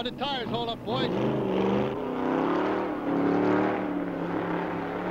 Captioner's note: engine revving